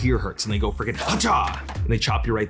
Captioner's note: hand smashing